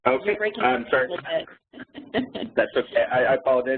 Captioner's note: laughs